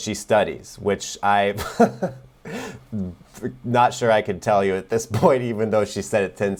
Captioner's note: chuckles